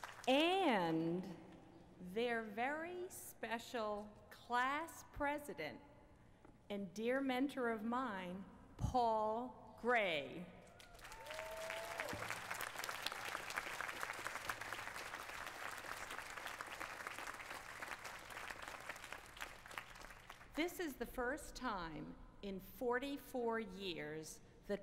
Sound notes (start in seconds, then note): 10.7 applause